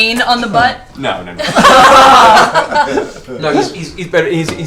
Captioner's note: all laugh